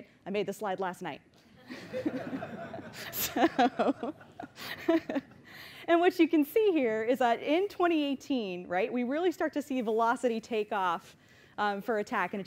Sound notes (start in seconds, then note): 1.6 laughter; 3.2 laughs